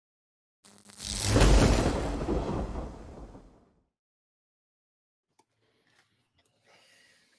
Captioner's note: electricity sparks; thunder claps